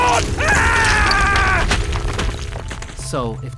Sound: rocks falling; thoughtful music playing

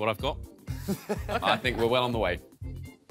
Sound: all laughing

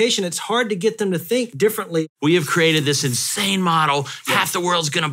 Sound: none

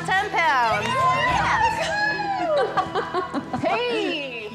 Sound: both chuckle

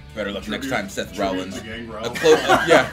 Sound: laugh

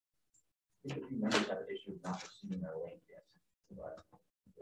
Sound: audio glitch

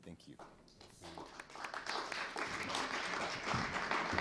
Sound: applause

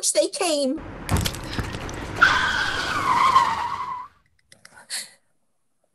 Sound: squishing under the tires; slamming on the breaks

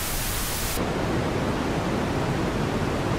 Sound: static

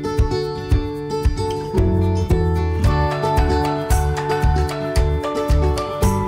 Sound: none

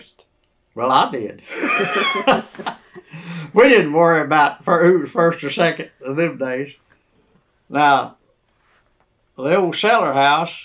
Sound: laughs

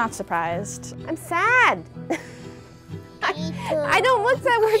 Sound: laughs

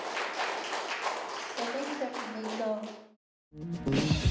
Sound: applause; non-english speech

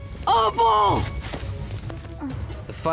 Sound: groaning

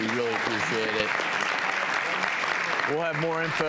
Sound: audience claps

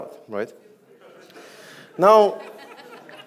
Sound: audience laughs

